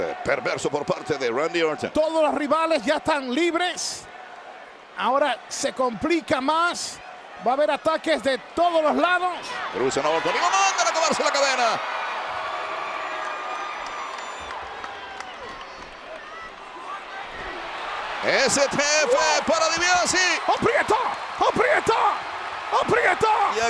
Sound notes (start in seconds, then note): 10.3 applause